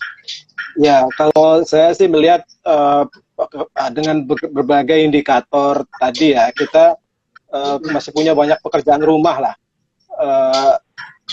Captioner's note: non-english speech